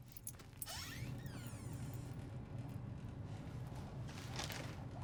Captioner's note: door creaking